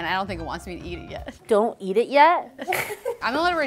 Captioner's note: laughs